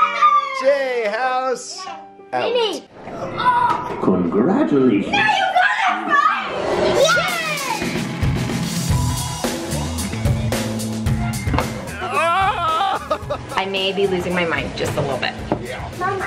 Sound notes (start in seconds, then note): 0.0 cheering; 5.9 cheering; 7.2 upbeat music